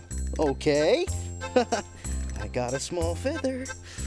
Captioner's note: laughing